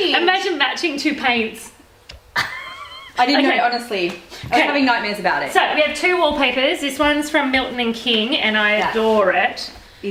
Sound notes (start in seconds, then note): 2.3 chuckling